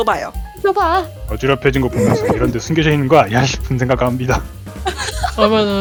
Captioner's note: laugh